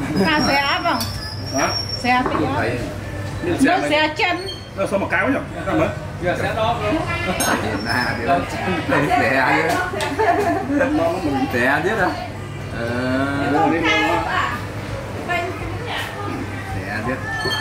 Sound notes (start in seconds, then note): 10.2 laughing